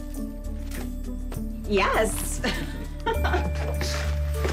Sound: laughs

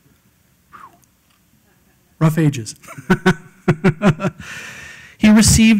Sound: laugh

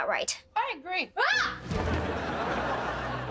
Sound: screaming

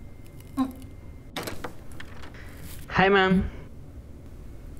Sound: door opening

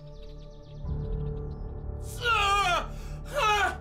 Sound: pained cries

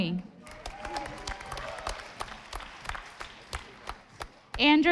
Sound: audience applauding

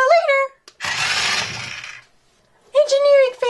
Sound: car tires spins

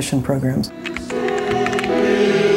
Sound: chorus singing; typewriter keys tap

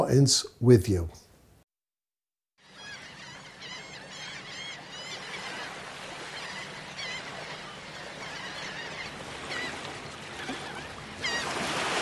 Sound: seagulls Cawing

